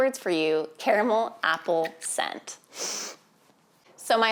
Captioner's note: sniffs